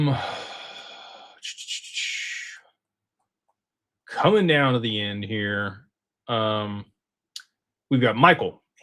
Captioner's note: sighs